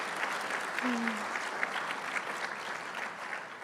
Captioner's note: applause